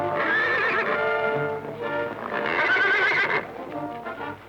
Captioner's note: horse neighing